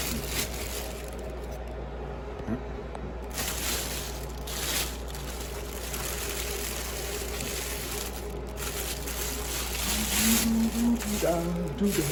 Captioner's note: bag rustling